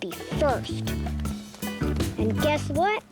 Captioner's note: children running